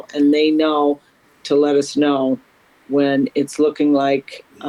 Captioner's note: none